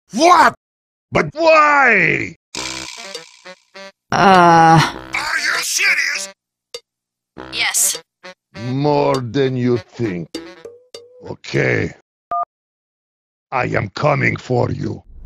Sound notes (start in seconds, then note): 7.6 on phone